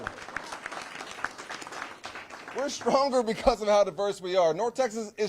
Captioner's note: applause